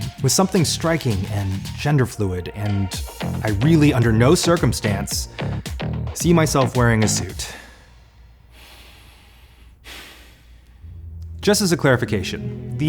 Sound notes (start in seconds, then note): 8.6 sighs